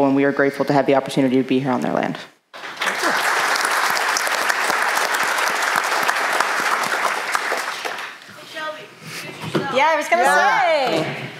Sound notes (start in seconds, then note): 2.5 applause